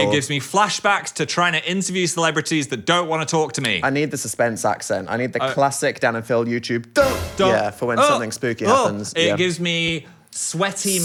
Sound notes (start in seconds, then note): none